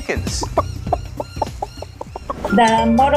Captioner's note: clucking